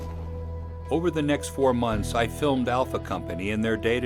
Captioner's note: voiceover